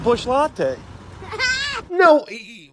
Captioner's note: laughs